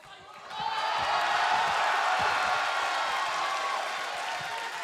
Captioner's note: audience cheering